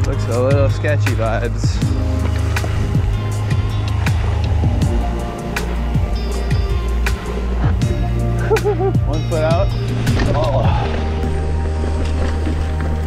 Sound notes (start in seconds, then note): 2.8 mellow synth music continues; 8.4 laughs softly